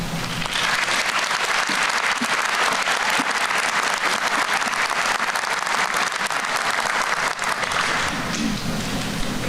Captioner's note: applause